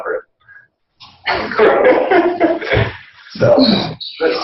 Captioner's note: laughing